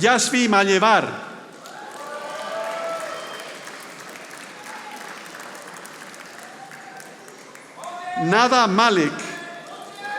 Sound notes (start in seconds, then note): 1.5 audience applauding; 9.4 audience applauding